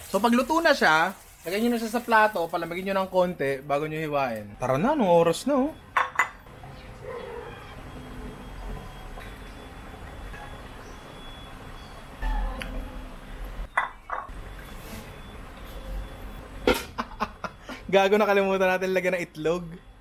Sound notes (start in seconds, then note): 16.9 laughs